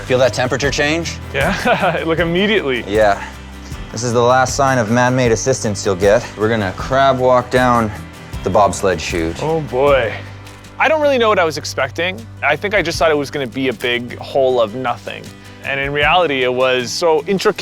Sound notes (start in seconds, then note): 4.0 laughs